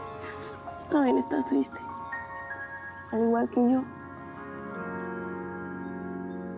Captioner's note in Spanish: llanto del perro